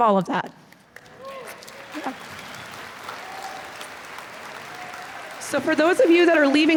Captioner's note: applause